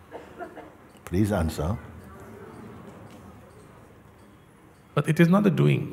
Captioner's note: Stimmen im Publikum